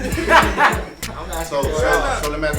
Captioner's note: crowd conversing